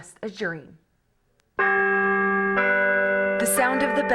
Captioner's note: bells clang